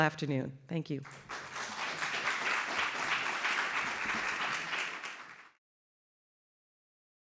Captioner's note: applause